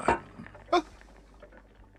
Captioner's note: Mole exclaims